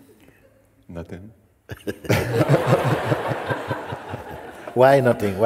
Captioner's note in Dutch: gelach